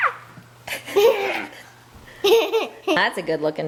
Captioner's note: laughter